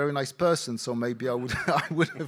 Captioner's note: laughing